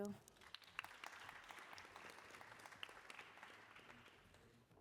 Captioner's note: applause